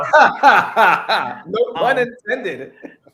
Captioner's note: robust laughter